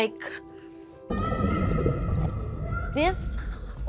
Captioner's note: screaming